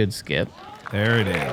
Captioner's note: cheering